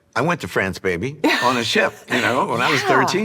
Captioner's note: laughs